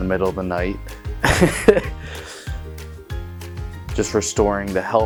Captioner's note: laughs